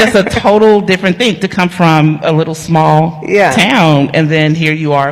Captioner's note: laughter